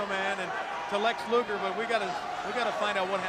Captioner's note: crowd chatter